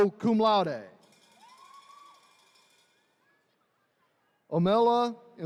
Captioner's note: attendees cheering